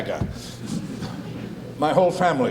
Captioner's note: audience titters